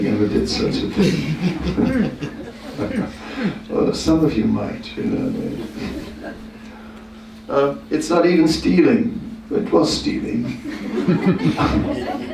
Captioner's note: laughter